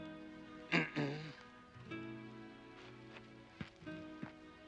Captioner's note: throat clearing